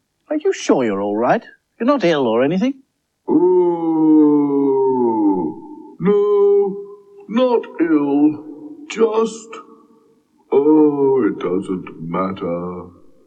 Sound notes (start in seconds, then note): 3.3 cauldron Groans Again